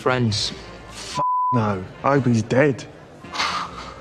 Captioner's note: beep